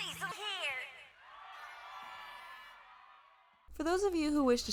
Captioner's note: cheering and horns